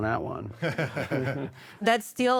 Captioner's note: laughter